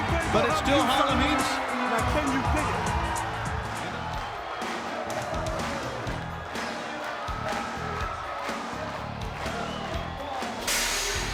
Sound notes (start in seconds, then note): 3.8 crowd clapping